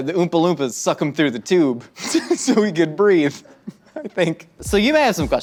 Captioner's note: laughs